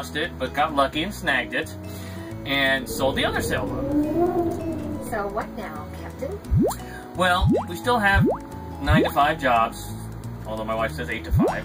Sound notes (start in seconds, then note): 2.2 whooshing; 6.3 silly sound